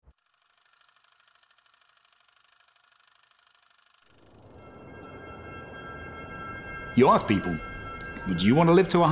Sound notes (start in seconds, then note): 0.1 reel ticking; 4.2 gentle music